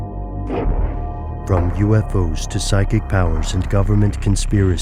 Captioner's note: voiceover